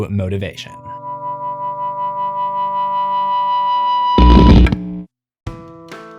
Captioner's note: amp turning on